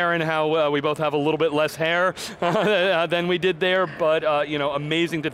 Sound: laughing

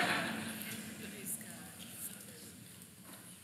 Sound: laughs

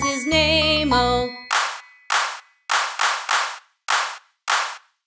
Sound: clap

